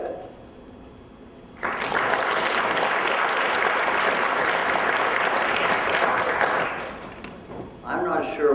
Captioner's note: applause